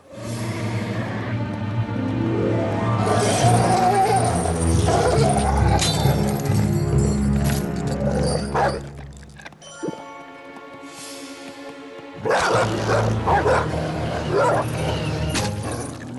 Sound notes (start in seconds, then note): 3.0 growling; 5.9 snap; 12.2 threatening barks